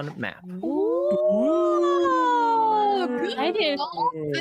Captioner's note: players making impressed noises